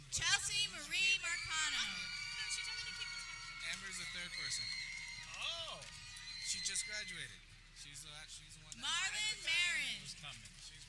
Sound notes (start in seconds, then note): 0.5 people cheering